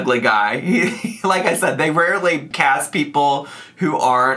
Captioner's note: laughs